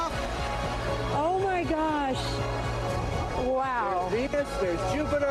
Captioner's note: cheers and applause